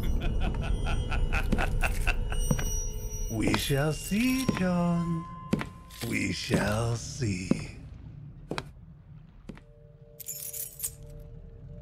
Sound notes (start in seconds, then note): 0.1 Dr. Zimmers Laughing; 4.0 footsteps, Keys Rattling; 7.9 footsteps Fade, Keys Rattle